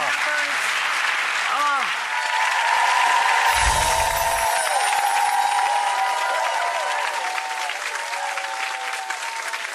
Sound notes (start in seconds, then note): 1.3 applause